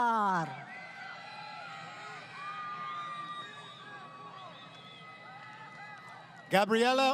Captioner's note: crowd Cheering